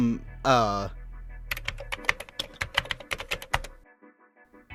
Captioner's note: keyboard clacking